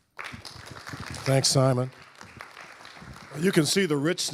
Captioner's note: audience applauding